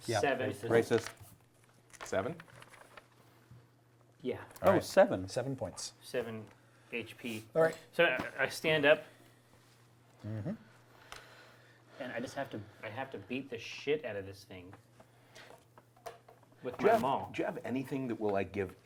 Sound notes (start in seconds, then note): none